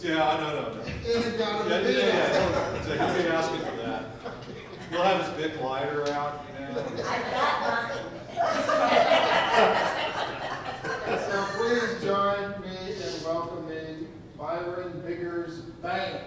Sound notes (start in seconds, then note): 8.8 audience laughs